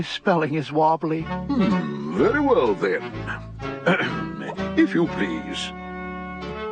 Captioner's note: clears throat